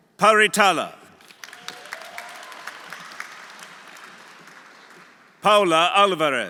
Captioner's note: audience applauding; audience cheering